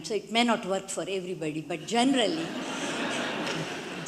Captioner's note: audience laughs